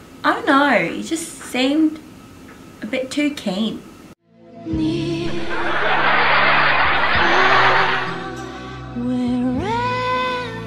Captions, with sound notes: I don't know, he just seemed... a bit too keen [laughing]